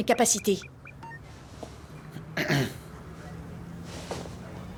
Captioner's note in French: Bip, s'éclaircit la gorge